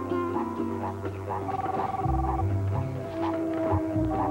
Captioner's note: telephone rings